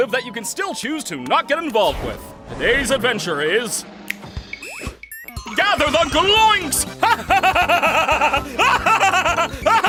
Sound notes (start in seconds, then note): 3.7 snaps fingers; 6.8 cackling maniacally